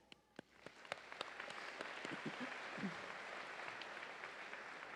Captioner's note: audience applauding